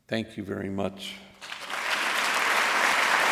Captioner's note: applause